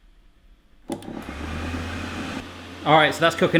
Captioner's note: whirring